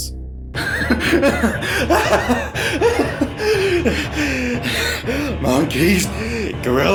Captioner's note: insane laughter